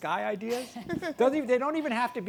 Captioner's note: laughter